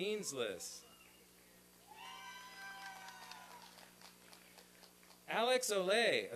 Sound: applause and cheering

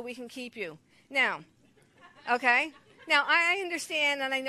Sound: congregation laughs

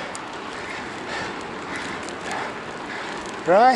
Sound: heavy breathing

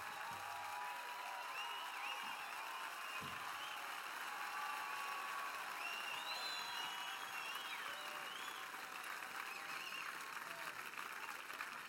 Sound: cheers and applause

